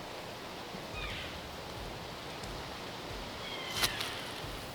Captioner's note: elk bugling